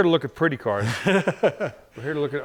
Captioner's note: laughs